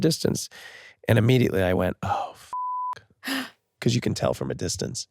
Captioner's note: beep